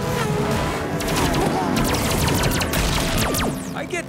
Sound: weapons fire

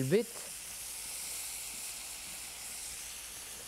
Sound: pan sizzling

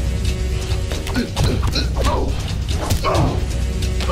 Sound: both grunting

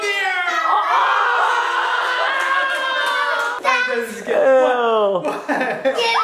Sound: crowd cheering continues

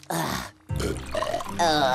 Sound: belching

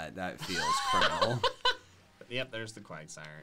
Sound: laughs

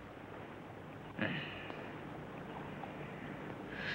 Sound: man sighs

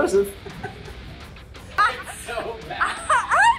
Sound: laughter

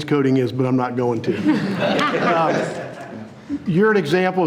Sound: board laughing

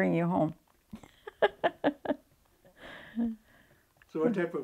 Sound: laughs

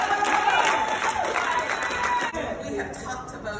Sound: applause

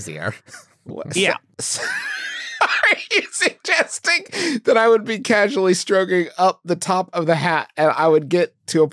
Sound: wheezing

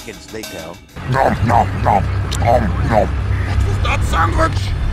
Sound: heavy eating sandwich sound

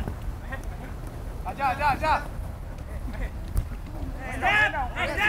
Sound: players talking and yelling

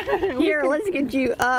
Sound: laughter

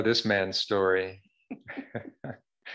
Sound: laughter

